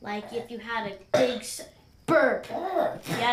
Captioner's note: burps